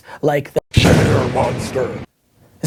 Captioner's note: monster voice